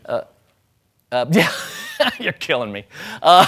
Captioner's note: laughing